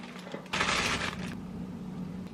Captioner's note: plastic crinkling